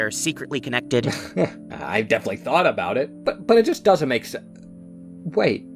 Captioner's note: laughs